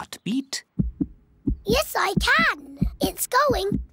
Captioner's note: heart thumps